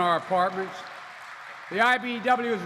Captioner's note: applause